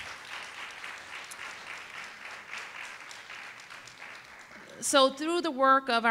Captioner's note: applause